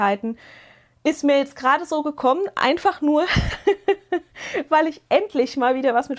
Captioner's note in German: gelächter